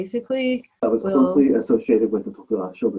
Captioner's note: video recording being played